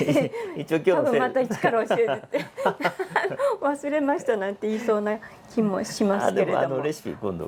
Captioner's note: laughs